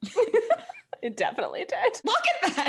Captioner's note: both laughs